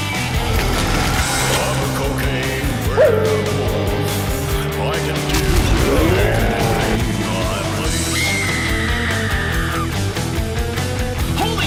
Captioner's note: screaming